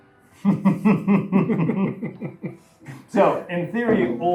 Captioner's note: chuckles